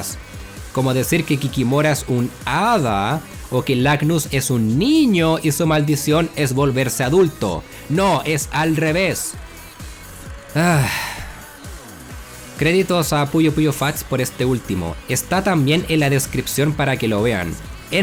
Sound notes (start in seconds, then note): 10.5 sigh